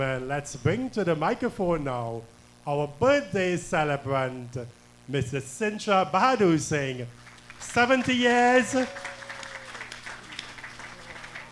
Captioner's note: applause and cheering